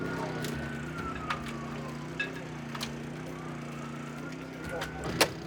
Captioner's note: sirens